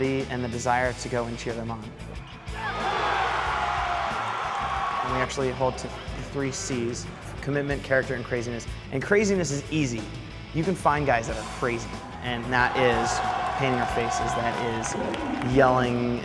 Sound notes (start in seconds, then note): 2.2 crowd cheering